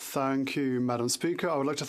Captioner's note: speaking French